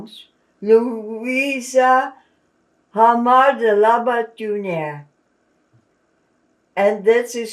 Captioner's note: non-english